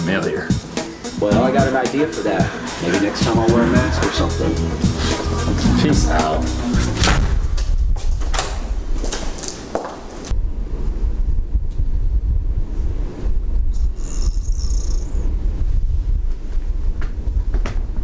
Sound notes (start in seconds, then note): 6.9 door slams; 8.3 locks door; 13.8 Francine snores